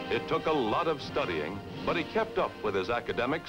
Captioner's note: male Voice